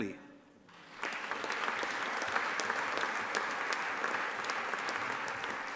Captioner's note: audience applauding